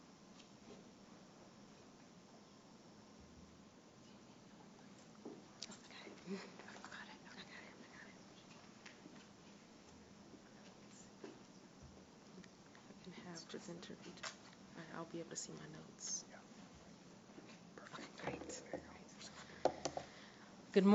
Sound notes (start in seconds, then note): 5.4 background Discussion